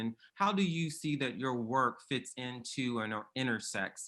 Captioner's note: none